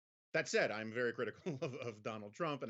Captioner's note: Jonah laughs